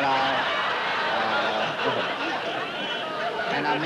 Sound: laughter

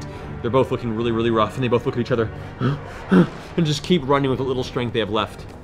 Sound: panting

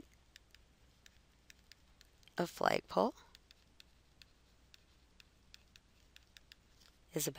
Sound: silence

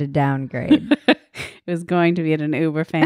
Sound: laughing

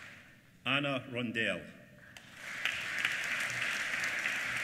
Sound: applause

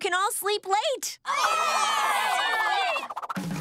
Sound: cheering

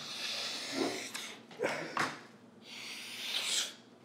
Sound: Daniel snorting

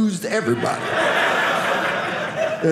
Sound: audience laughing

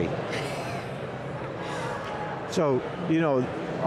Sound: laughing

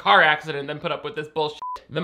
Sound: beep

